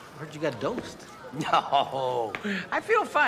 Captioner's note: laughing